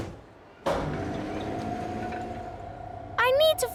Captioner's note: lift moving